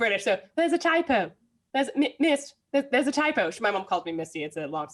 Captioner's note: British accent